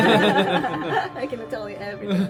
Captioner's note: all laugh